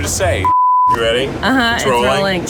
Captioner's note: sine tone beep